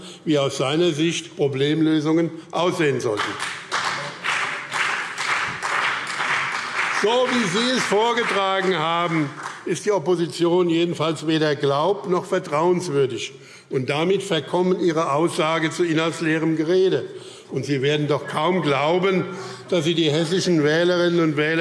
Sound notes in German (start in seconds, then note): 3.0 Beifall BÜNDNIS 90/DIE GRÜNEN und CDU